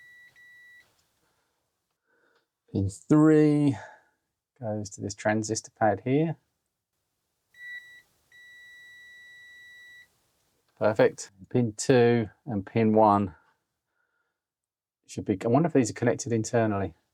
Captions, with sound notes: Pin three goes to this transistor pad here. (Beeping) Perfect. Pin two and pin one should be... I wonder if these are connected internally.